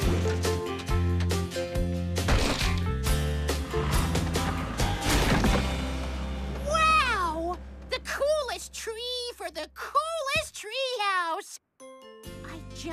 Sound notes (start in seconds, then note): 2.2 thud!; 2.2 splat!